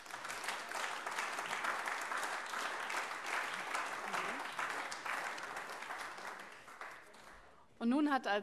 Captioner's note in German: Beifall AfD und vereinzelt CDU